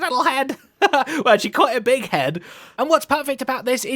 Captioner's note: laughs